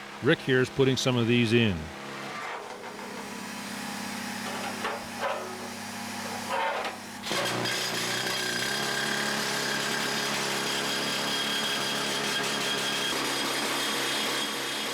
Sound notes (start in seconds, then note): 2.6 sounds of Drilling